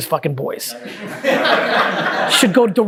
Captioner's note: group laughing